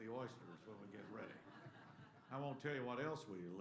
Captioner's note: laughter